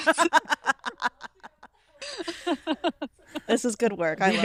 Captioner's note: laughs